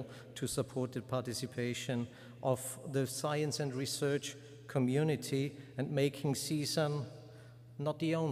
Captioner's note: none